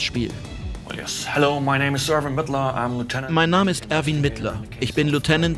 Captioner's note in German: englisch